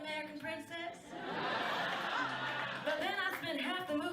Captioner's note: audience laughs